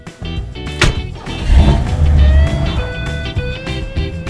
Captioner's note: car revving